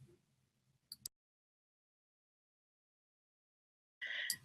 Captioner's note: muted audio